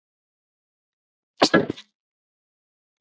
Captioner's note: sneezes